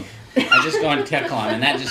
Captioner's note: laughter